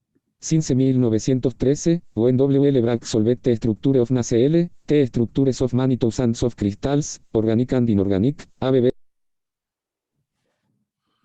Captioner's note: speaking spanish